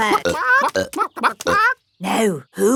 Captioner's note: clucking